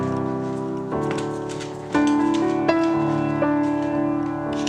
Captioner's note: sound of dog toes clipping down the hall